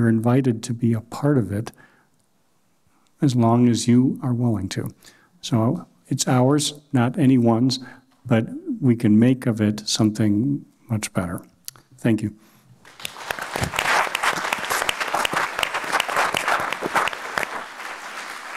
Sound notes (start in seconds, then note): 12.8 applause